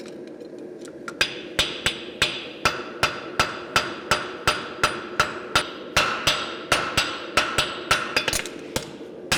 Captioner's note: metallic hammer blows